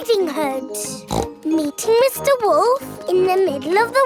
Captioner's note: snorts